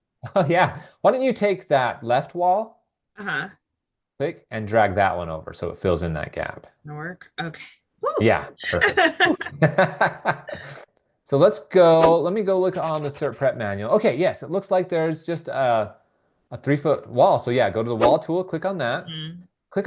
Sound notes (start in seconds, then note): 8.7 laughing; 12.0 image whooshing; 12.7 pencil scribbling